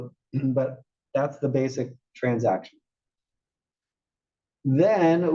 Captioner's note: cough